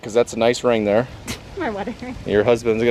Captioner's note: laughs